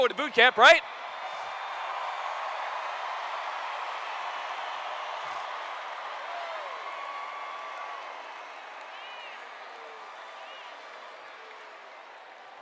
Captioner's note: cheers